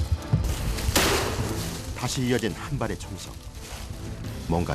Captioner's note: bang!